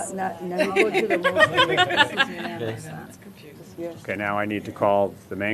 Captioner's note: laughter